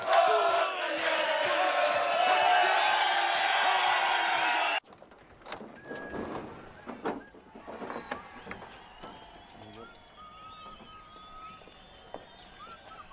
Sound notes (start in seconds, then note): 5.6 Silbido